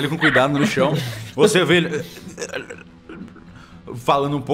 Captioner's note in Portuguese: grunhidos